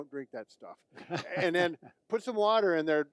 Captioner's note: laughs